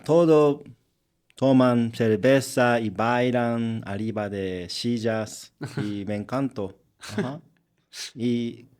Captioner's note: laughs